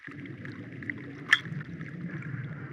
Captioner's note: ding